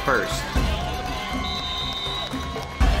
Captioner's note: cheering and Refs whistles